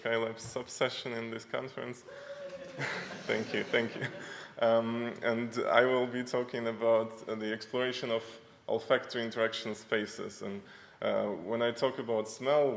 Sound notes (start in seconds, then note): 2.1 hoot from audience; 2.4 speaker chuckles